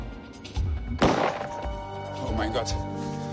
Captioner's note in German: Schuss